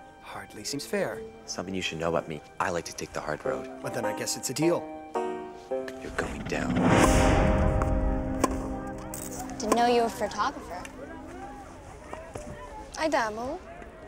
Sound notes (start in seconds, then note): 7.7 tennis ball being hit